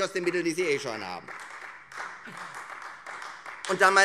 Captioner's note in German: Beifall Freie Demokraten